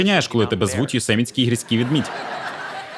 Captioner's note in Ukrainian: Сміх